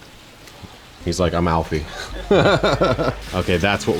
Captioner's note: chuckles